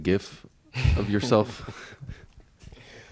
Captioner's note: chuckles